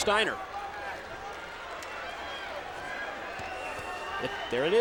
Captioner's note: crowd chattering